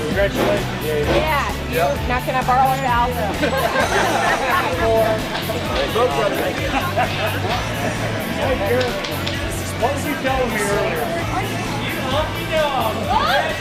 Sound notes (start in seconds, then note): 3.2 laughter; 5.8 indistinct chatter